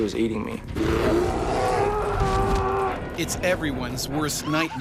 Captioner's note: bear growling; screaming; voiceover